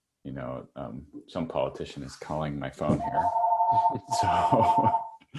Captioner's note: chuckles